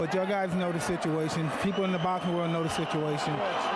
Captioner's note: applause